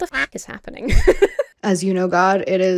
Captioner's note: duck quacks; laughs